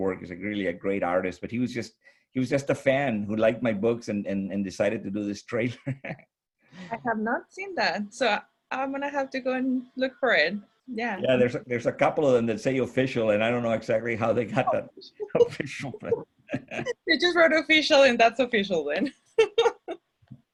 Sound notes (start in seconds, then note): 5.6 chuckles; 16.5 chuckles